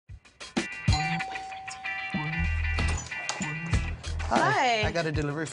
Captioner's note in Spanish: doorbell